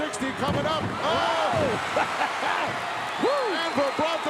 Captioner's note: hillbilly laughing